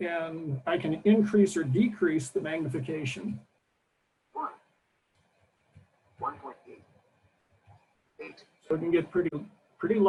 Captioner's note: computer talking